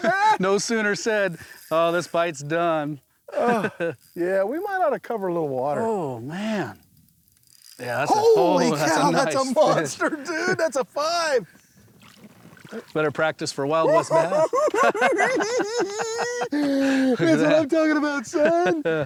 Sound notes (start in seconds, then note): 3.3 sighs; 3.3 laughs; 13.8 laughing; 13.8 giggling